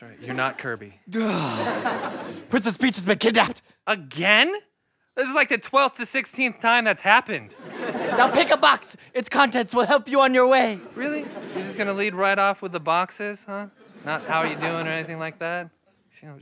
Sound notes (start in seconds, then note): 7.5 laughter